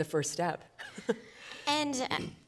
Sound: laughing

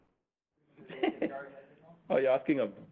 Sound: laughing

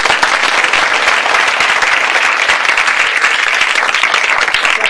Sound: clapping

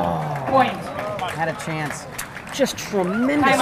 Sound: audience clapping

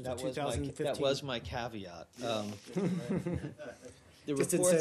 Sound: laughter

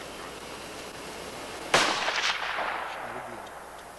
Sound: gunshot

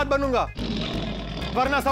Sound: roaring sound

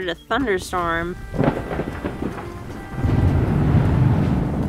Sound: thunder roars

